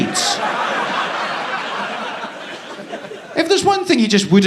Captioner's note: audience laughing